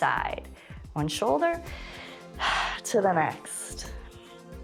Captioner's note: exhales